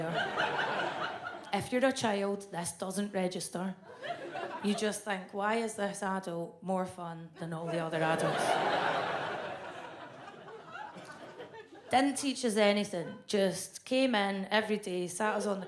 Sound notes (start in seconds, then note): 0.0 audience laughs; 7.7 audience laughs